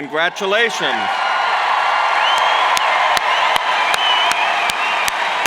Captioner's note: cheers and applauds